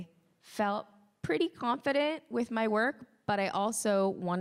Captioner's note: none